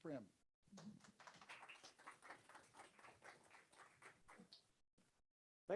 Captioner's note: audience applauds